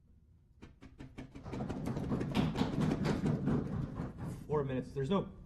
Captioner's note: applause